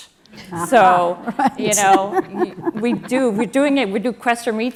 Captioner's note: laugh